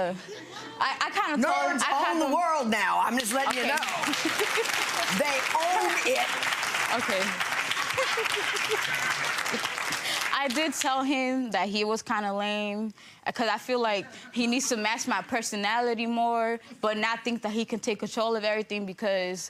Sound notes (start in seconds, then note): 4.7 clapping